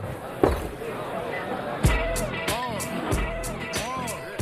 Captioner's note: glass set down